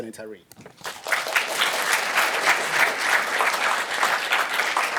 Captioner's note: applause